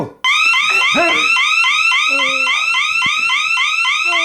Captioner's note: siren blaring; Perez grunts